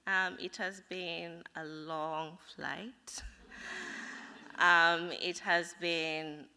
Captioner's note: laughter